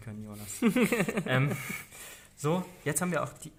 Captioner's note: laughing